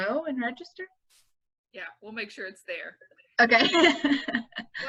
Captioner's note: laughing